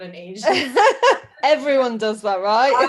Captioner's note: laughs